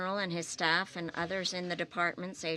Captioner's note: speaking French